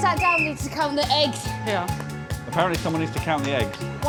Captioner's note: whistle blows